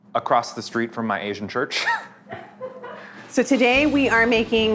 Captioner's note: chuckles